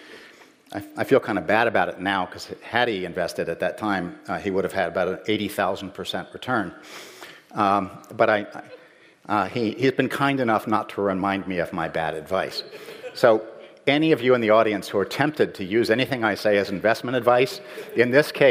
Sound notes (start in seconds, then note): 12.6 laughter